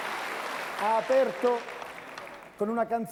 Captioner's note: Applauso